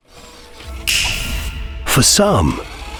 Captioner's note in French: son robotique; claquement de doigts